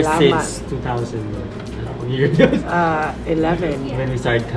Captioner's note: laughs